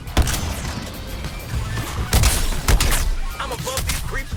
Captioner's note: guns firing